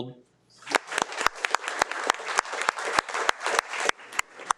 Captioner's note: participants applauds